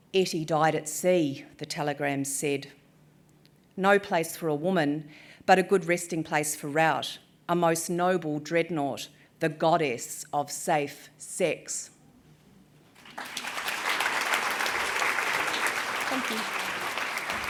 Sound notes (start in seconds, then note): 12.9 applause